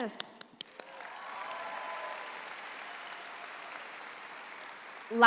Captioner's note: claps; audience applauds